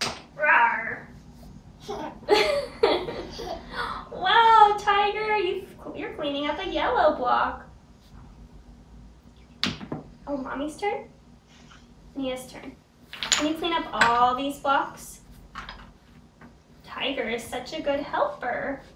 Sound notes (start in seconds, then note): 1.8 chuckles